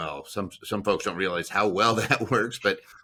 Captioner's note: laughing